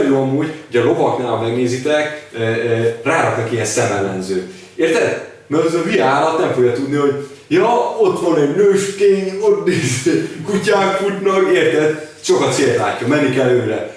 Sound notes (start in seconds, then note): 9.7 laughing